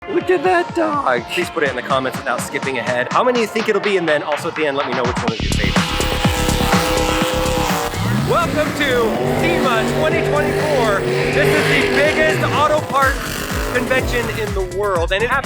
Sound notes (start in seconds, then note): 6.0 engines revving; 6.0 upbeat music